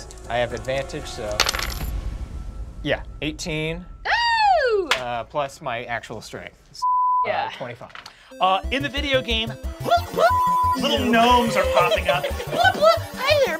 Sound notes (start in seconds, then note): 4.0 cheers; 6.8 beep; 10.9 beep